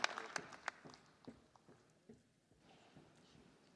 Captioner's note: applause